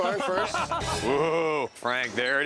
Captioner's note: laughter